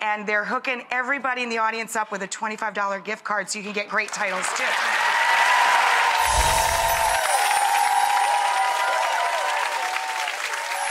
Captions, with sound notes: and they're hooking everyone in the audience up with a 25 dollar gift card so you can get great titles too. (audience applause and yelling) (chime sounds)